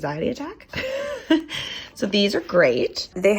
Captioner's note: laughs